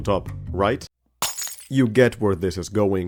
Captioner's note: glass shatters